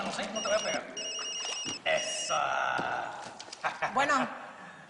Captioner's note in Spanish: Suena el celular